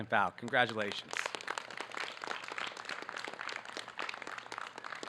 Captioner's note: audience clapping